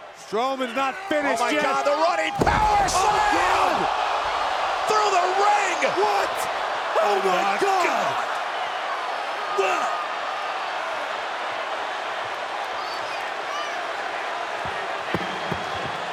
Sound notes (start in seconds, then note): 2.3 body thudding; 9.8 crowd cheering